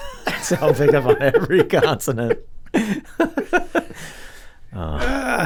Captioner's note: laughing